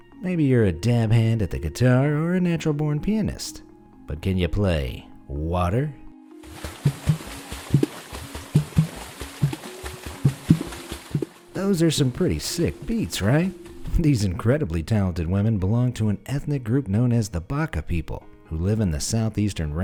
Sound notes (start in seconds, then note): 6.4 uptempo splashing